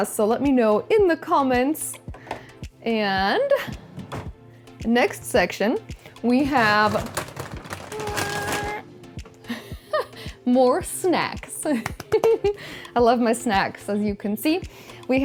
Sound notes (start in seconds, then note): 9.7 laughs; 11.8 claps